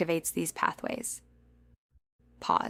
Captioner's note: pause